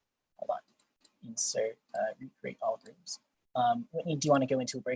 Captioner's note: speaks faintly